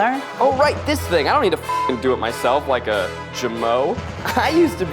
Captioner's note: beep